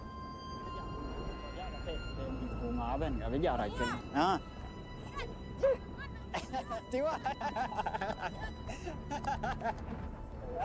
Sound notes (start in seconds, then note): 2.2 speaking in foreign language; 4.9 calm music; 6.4 speaking in foreign language